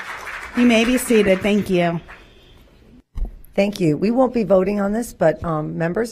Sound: applause

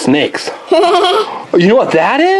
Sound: assistant laughs

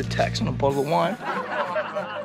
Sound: laughing sounds

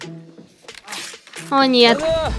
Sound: the manual rips

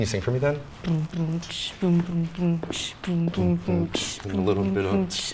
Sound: beatboxing

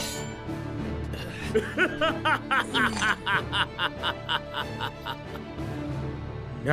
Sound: laughing

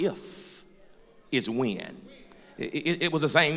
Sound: voiceover

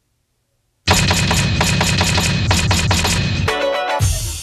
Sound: typewriter clicking; upbeat, bouncy music

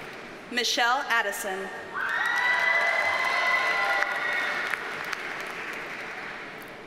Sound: audience cheers and applauds

